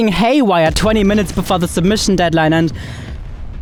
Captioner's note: explosion booming